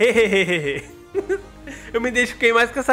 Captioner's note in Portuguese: risos